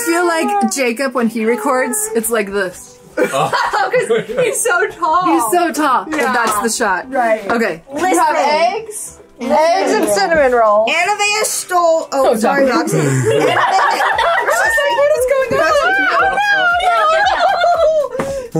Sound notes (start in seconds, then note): 3.2 laugh; 12.2 group laughs